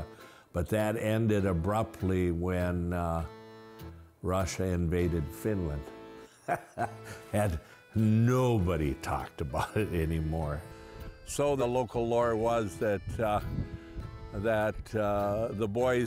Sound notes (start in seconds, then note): 6.3 laughing